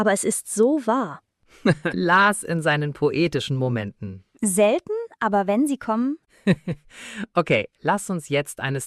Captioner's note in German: gelächter